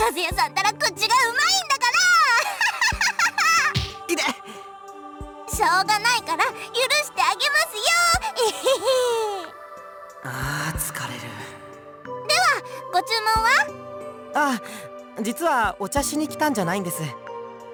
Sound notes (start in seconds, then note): 1.8 laugh; 8.2 chuckle